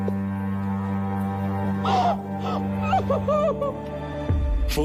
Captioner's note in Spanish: Sollozos